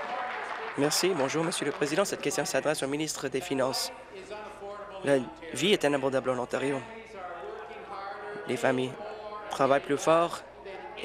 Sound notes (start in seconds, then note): 2.5 applause